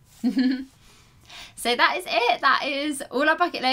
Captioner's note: giggles